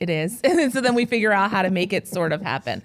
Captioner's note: laughing